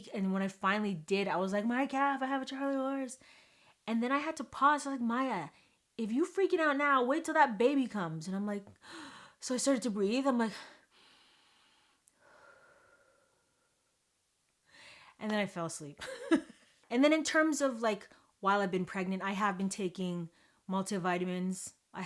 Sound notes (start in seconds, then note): 12.2 exhales